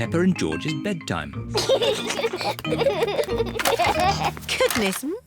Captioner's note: both giggle